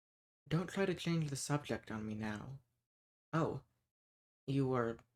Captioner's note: none